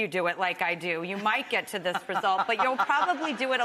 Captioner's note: Rachael laughing